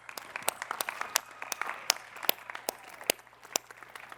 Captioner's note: applause